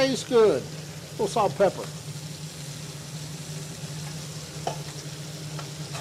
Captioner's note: skillet sizzling continues